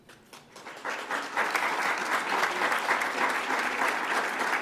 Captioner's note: audience applauds